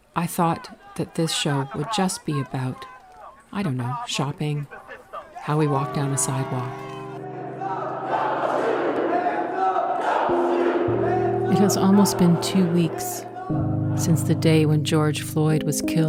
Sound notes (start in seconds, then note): 7.6 crowd chants "Hands up! Don't Shoot!